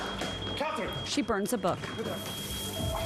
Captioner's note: fire alarm sounding